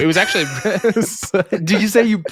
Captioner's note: laughing